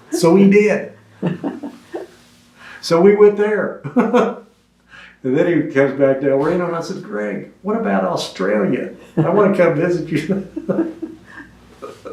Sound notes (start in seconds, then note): 4.0 laughs